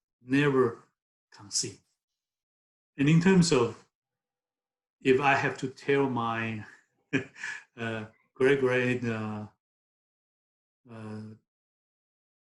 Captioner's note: laughs